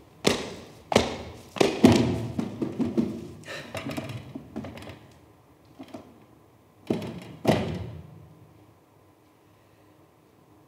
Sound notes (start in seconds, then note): 1.9 fingers tapping